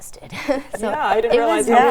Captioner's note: laughter